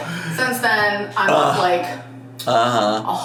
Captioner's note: groaning